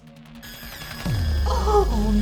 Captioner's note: computer whirring